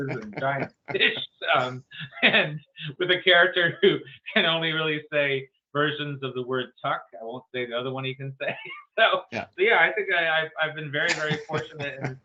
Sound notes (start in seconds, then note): 8.8 laughs